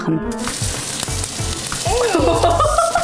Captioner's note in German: Wasserplätschern; Lachen